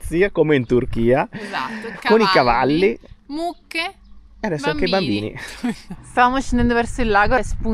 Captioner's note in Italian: risate